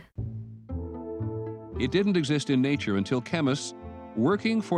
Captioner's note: voiceover